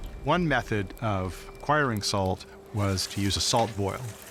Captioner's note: none